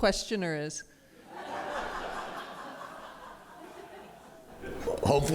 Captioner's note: laughter